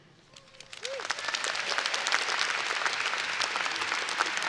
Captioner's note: audience applauding